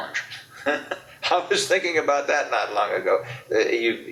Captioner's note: laughs